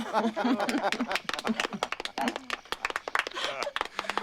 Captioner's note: laughter and applause